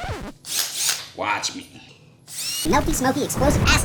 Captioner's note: drill sound